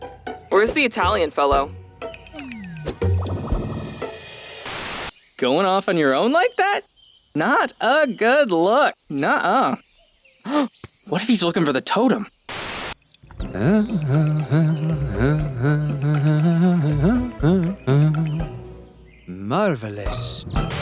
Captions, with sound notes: Where’s the Italian fellow? Going off on your own like that? Not a good look, nuh-uh! [gasps] What if he’s looking for the totem? [humming] Marvelous!